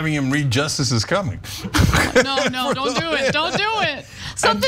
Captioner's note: laugh